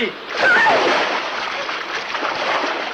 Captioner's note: screams